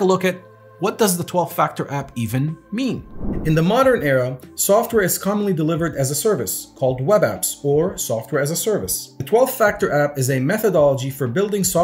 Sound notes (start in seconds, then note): 3.0 whooshing